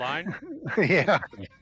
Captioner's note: laughing